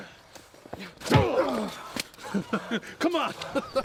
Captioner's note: knee thudding; chuckles